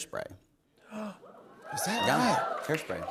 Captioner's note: gasps